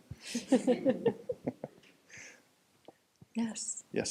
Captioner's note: panel and audience chuckling